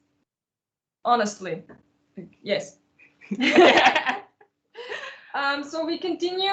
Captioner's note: laughter